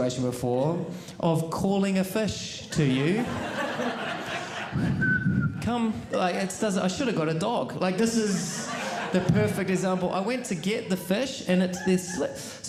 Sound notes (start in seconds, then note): 4.8 whistle